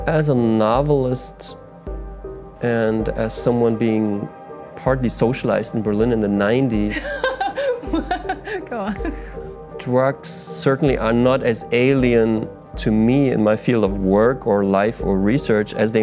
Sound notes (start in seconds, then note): 7.0 laughs